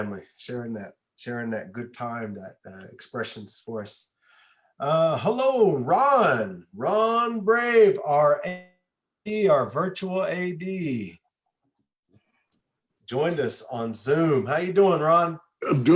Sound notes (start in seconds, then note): 0.0 speaks an indigenous language; 8.2 audio distorts